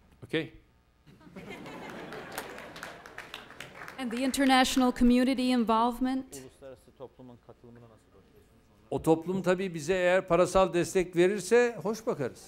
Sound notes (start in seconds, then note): 10.2 non-english speech